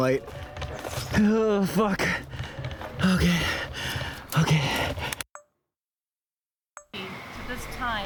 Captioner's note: heavy breathing